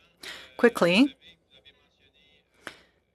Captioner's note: speaking French